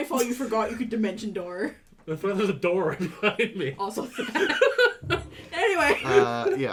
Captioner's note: laughter